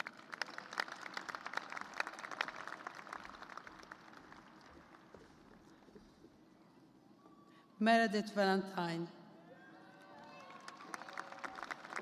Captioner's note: applause